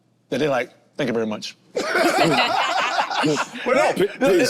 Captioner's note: group laughs